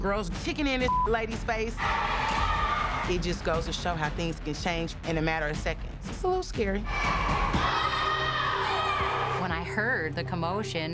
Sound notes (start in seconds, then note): 6.7 yelling